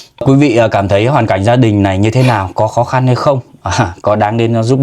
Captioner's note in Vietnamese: khịt mũi